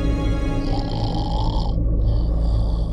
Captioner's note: Snoring